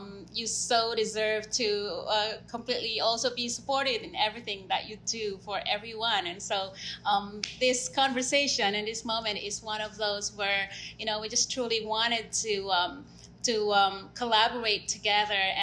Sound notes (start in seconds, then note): 7.4 claps